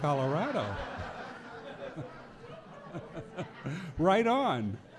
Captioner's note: audience laughing